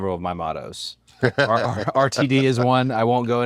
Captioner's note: laugh